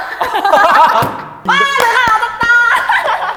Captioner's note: laughter